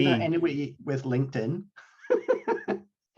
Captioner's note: laughs